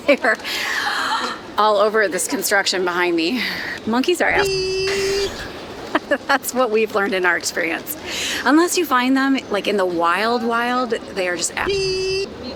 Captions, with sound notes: They're all over this construction behind me. Monkeys are-- (beeping) That's what we've learned in our experience. Unless you find them like in the wild, wild, they are just-- (beeping)